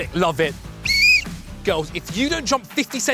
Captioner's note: whistle